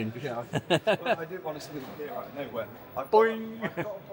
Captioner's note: laughs